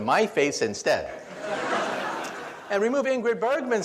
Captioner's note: audience laughs